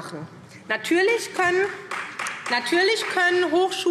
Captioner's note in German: Beifall SPD